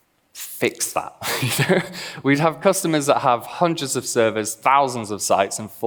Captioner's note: laughs